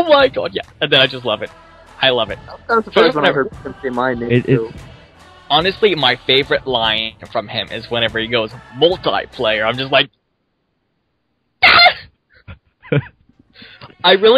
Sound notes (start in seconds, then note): 11.6 excited scream; 12.4 laughs